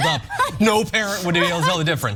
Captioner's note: laugh